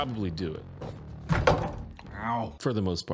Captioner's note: loud thud